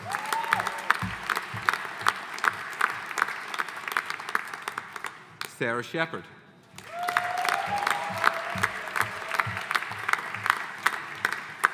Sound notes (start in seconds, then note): 0.0 audience applauding; 6.7 audience applauding